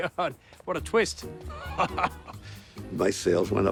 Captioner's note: laughing